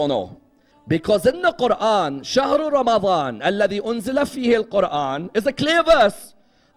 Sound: Arabic

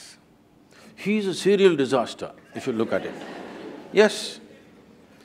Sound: laughter

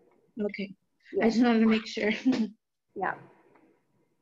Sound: chuckles

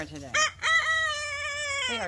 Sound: Edgar crows

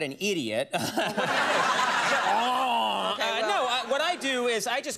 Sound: crowd laughing

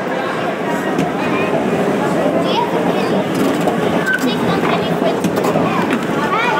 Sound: voices echoing around a large hall; rumble and clatter of escalator

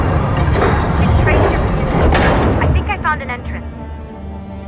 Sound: trapdoor opens; Lucy through radio

